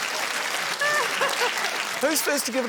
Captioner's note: laughs